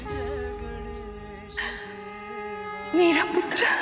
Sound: sighs

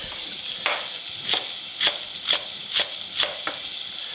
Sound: knife chopping

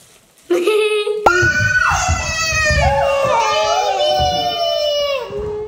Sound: laughs; family clamoring

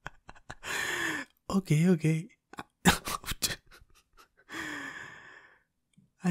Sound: laughing

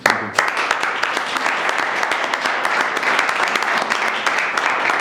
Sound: audience applauding

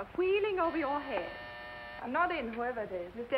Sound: buzzer sounds

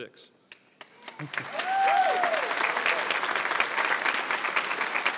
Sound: audience applauds

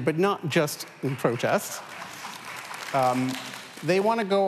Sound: applause

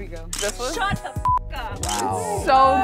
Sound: beep

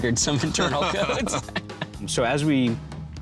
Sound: laughing

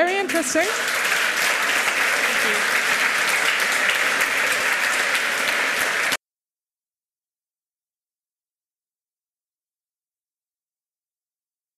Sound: applause

